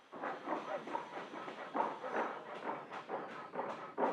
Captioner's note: hammering, sawing